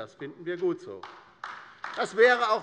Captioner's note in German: Beifall bei der LINKEN